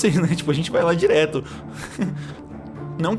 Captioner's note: laughs